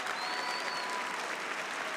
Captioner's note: cheering and applause